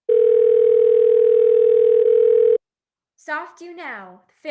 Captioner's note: phone ringing